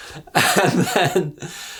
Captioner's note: laughs